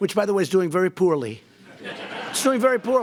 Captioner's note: laughter